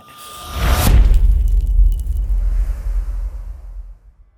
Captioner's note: impact